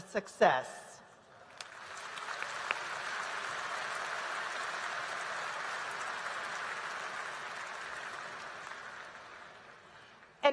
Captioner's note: applause